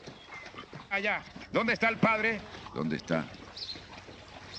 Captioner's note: yelling